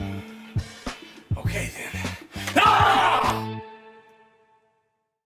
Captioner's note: yelling